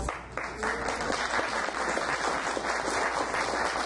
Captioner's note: audience applauds